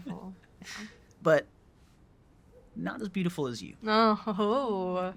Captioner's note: laughs